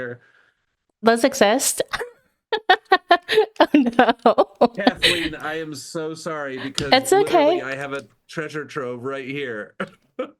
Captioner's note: laughing